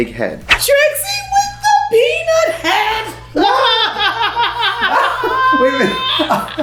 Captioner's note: laughing